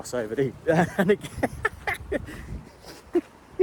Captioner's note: laughter